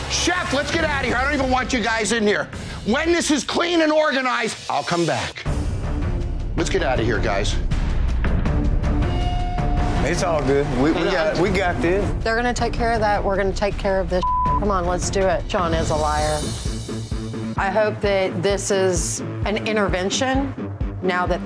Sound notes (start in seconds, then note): 6.0 intense dramatic music; 14.2 beeping